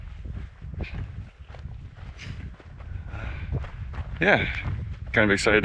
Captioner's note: wind blowing